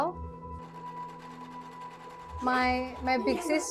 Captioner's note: sewing machine whirs